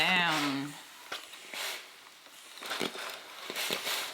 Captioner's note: steam sizzles